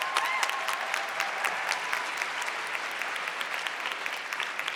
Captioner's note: audience clapping